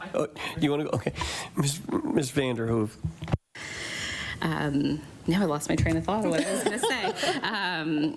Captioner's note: laughter